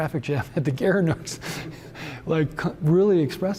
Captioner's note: chuckles